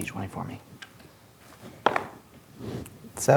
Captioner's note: dice rolling